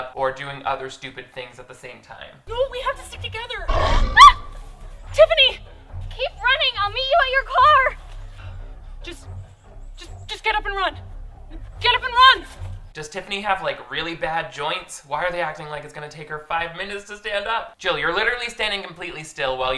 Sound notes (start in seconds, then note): 3.6 ghost shark growling; 3.7 screams